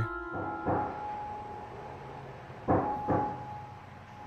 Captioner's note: knock at the door